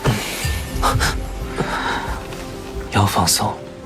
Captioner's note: Li Yuze's breath trembles